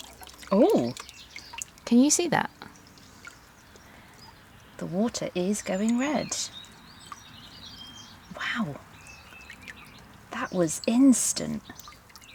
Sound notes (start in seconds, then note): 0.0 water rippling